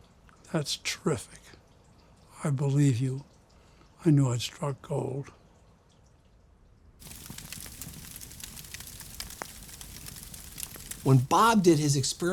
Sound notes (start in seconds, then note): 7.0 fire crackling